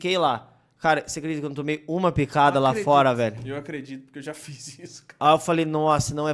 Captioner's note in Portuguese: risos